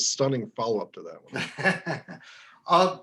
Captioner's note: laughs